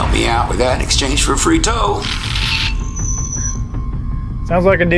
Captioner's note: static buzzing